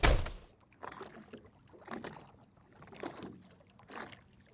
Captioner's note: doors bang; water splashing